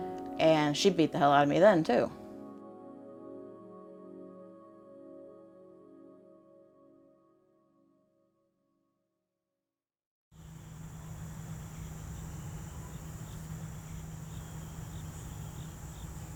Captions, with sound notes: And she beat the hell out of me then too. [birds chirping]